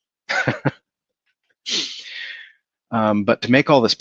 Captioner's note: laughs